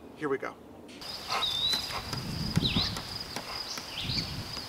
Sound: ball thumping

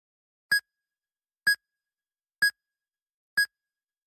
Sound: heart monitor beeps

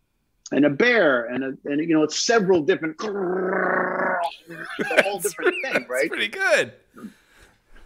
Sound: growls

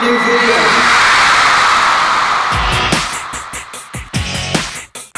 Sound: crowd cheering

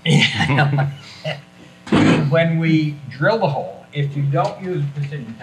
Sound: chuckles

